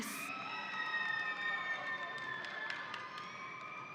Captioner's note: audience cheering